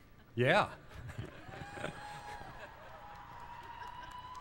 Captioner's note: laughter